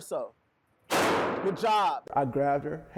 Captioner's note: gunshot booms